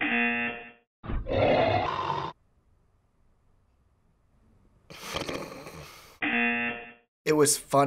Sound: buzzer; snorting

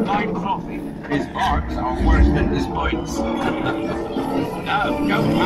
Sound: laughs

